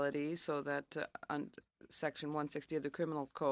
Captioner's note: speaking in French